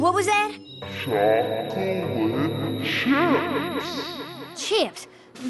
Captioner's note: distorted